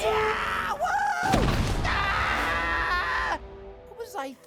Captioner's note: screaming